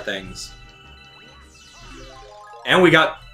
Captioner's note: Star Bits chiming